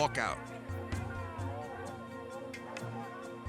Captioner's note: pensive music; people yelling